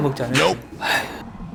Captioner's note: sighs